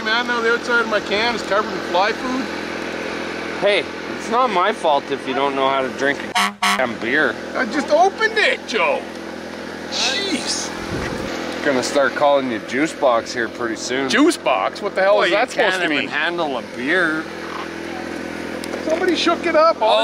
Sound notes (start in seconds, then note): 6.2 car horn honks